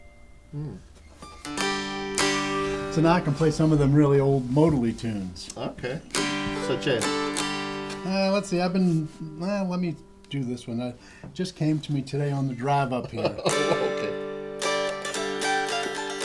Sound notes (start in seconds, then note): 13.0 laughter; 15.1 dulcimer playing